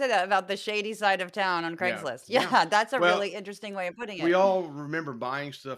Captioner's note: laugh